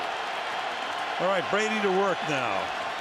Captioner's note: cheering